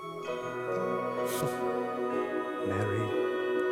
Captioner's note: laughs softly